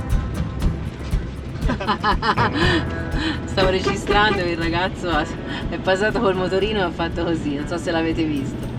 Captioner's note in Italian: risate